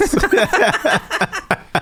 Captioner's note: laughing